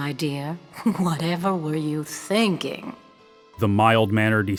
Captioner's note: chuckles